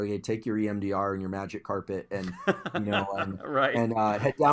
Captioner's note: laugh